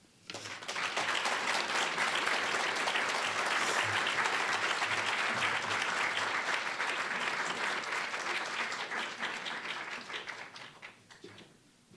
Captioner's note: applause